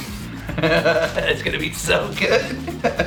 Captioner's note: laughs